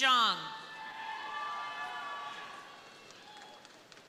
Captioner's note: crowd cheering